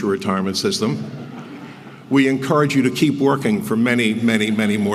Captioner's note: laugh